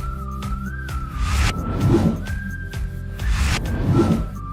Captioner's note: lively upbeat music; upbeat music; logo whooshes